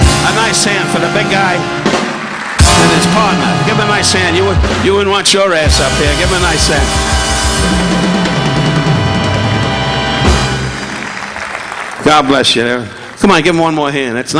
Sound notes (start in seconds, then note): 7.7 upbeat instrumental music continues; 10.3 audience applauding